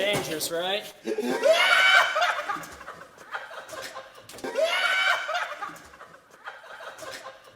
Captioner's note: laughing